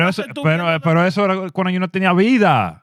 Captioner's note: speaking In Foreign Language